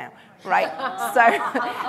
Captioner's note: laughter